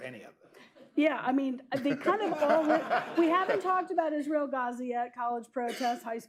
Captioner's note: laughs; laughter